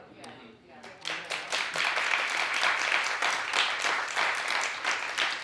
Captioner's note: audience applauds